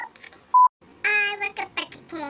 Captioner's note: beep; sings